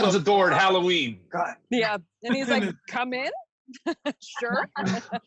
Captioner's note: laughs; laughs